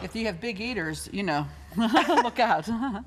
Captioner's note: laughter